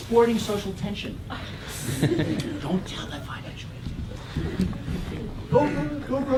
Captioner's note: laugh